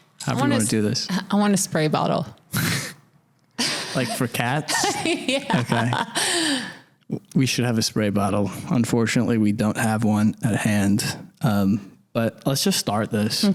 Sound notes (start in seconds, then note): 4.6 laughs hard